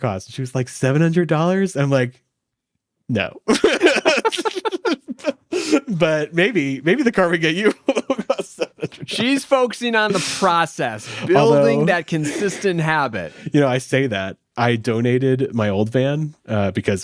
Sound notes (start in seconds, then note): 3.4 people laughing